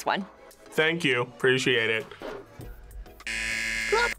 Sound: buzzer

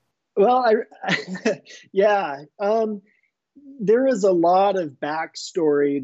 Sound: laughing

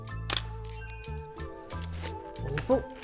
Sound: camera shutter clicks

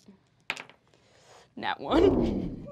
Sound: die clacks

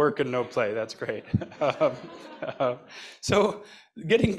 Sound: laughs; laughter

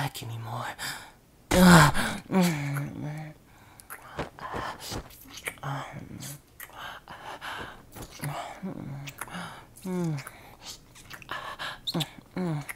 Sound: kissing; rustling

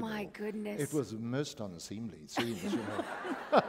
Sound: laughter

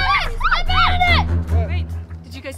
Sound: group yelling; dramatic music

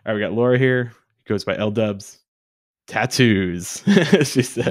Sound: chuckles

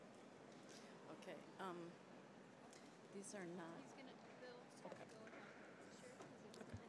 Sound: voice fades

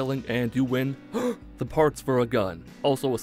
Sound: gasp

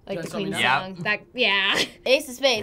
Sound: laughs

